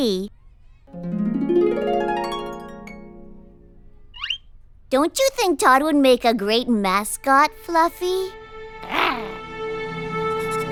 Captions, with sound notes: (GENTLE TINKLE OF HARP CHORDS BEING STRUMMED) DON'T YOU THINK TODD WOULD MAKE A GREAT MASCOT, FLUFFY? (AMOROUS GROWL)